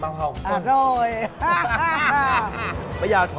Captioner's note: both laughing